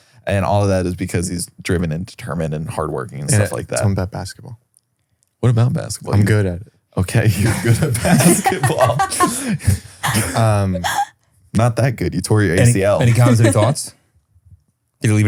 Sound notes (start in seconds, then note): 7.2 laughs